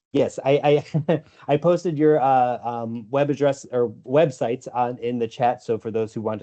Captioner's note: laughs